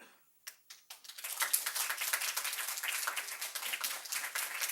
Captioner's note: group applauds